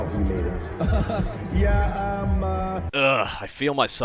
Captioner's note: laughs awkwardly